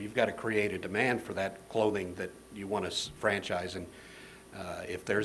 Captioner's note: none